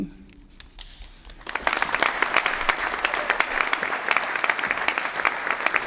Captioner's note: applause